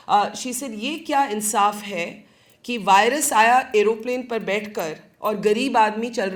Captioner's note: speaking in foreign language